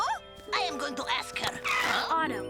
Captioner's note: tires screech